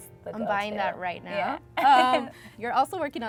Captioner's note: laughs